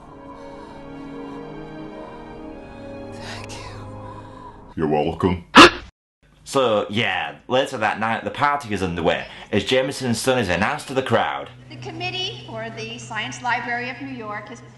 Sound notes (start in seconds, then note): 0.1 heavy breathing; 5.5 gasps